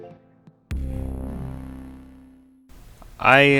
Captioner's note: bwoooooom